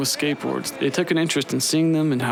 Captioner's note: speaking In Foreign Language